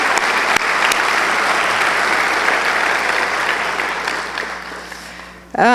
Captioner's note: applause